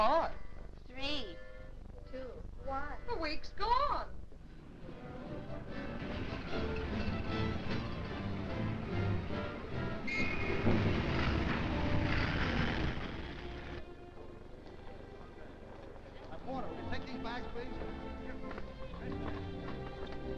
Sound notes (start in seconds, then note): 4.3 traffic humming; 4.3 upbeat music; 13.0 slow somber music